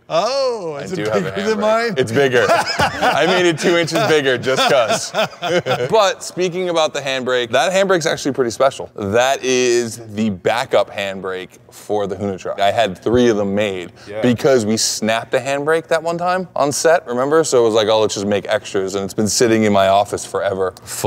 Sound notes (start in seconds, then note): 2.0 Ken laughing; 4.9 Ken and Brian laughing